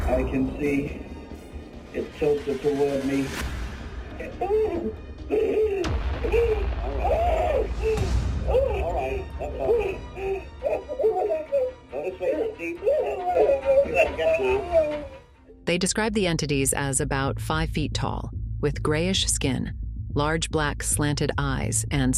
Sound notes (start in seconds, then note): 5.2 Betty crying out; 13.7 Betty cries